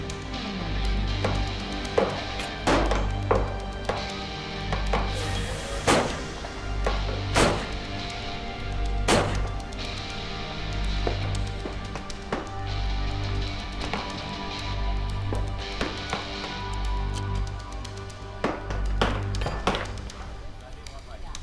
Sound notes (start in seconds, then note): 1.6 gunfire